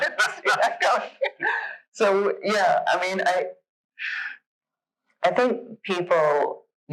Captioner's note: laughs